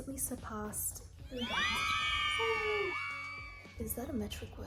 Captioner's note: screams of approval